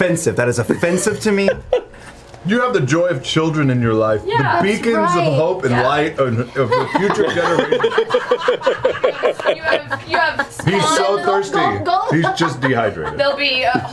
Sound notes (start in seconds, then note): 8.0 all laugh